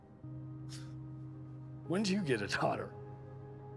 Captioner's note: scoffs